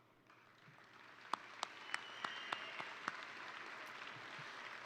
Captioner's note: all applaud